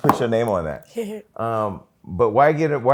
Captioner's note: laughs